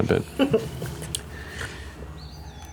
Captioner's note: giggling